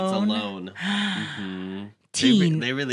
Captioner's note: gasp